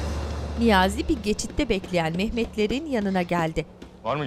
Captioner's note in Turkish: Ayak sesi